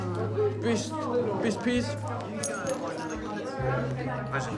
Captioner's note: medals jangle